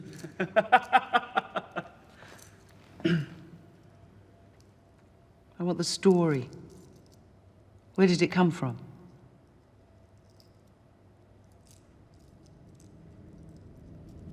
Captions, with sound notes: -Ooh, she's good. -[laughs] [clears throat] I want the story. Where did it come from?